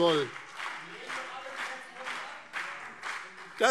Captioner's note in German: Beifall BÜNDNIS 90/DIE GRÜNEN und CDU - Zurufe SPD